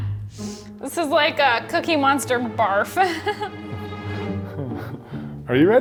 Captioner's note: chuckles; chuckling